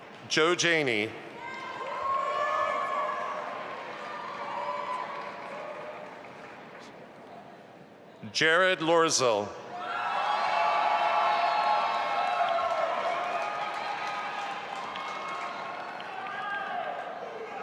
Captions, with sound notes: Joe Janey. (audience applauding) Jared Loerzel. (audience applauding and cheering)